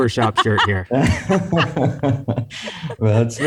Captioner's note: laughter